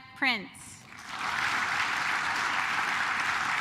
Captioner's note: claps